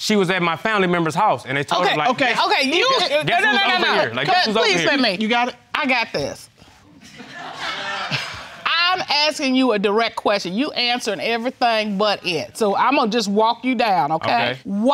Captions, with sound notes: She was at my family member's house, and I told her like... Okay, you... No, no, please, let me. You got it? I got this. (AUDIENCE LAUGHS) I'm asking you a direct question. You answering everything but it. So I'm gonna just walk you down, okay? Okay.